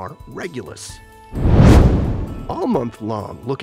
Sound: meteor swishes

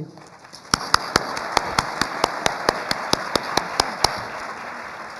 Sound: applause

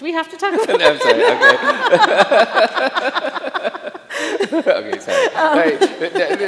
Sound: chuckles

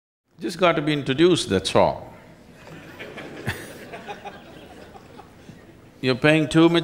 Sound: laughter

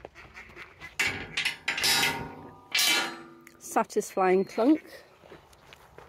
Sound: loud metallic clank

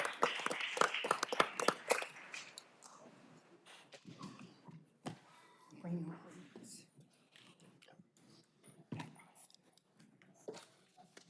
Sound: applause

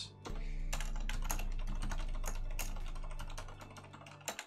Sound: keyboard clattering

